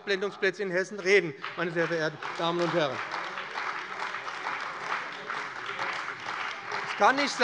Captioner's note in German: Beifall bei dem BÜNDNIS 90/DIE GRÜNEN und der CDU